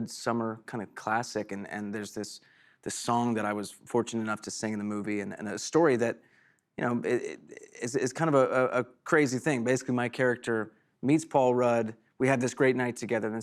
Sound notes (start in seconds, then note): none